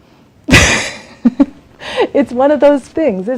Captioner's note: laughs